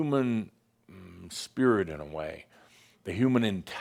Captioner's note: none